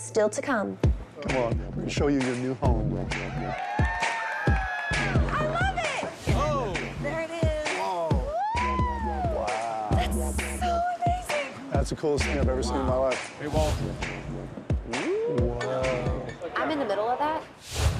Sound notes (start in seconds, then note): 3.2 cheering and applause